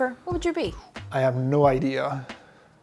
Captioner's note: sighs